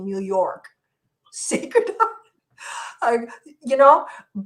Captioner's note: laughs